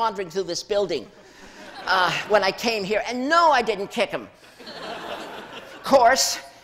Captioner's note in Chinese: 笑聲